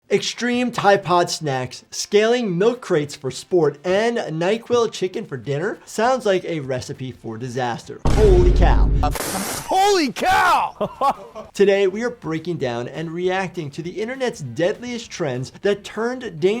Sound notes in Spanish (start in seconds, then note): 9.2 persona escupe; 10.7 amigo se ríe